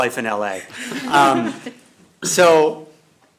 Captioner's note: laughter